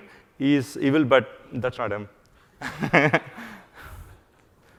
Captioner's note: laughs